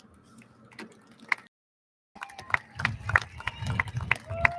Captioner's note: audience lauds